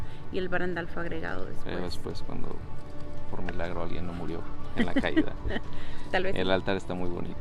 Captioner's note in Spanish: risas